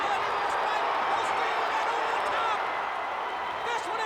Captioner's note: crowd cheering